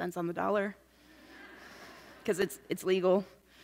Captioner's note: laughs